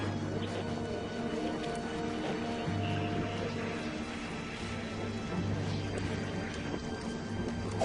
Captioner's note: помехи